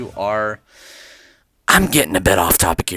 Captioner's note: le inhale